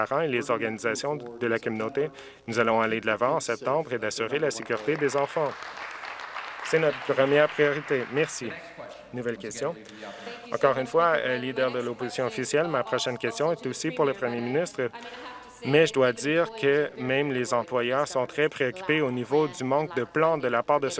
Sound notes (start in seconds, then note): 8.8 applause